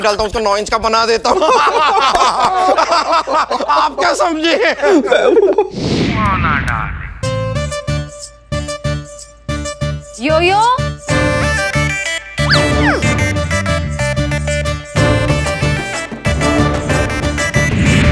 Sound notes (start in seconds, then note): 1.4 Laughing